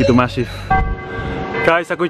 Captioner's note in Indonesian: sound of the church bell calling for the prayers